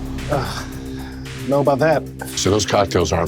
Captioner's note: groans